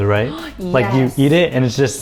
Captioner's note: gasps